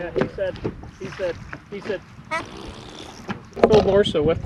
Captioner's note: fart noise